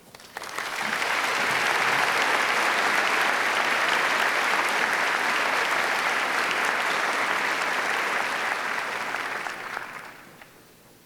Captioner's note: applause